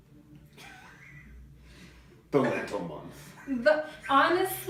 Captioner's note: laughing